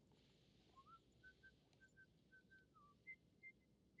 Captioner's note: whistling